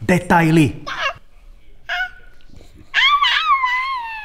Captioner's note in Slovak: Detské zvuky